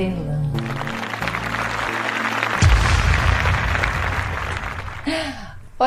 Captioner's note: applause